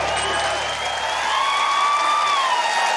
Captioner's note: ding!; cheering, applause